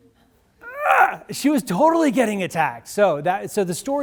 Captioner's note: groans